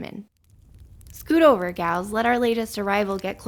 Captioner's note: fire crackles throughout